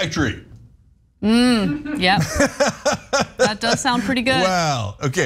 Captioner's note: laugh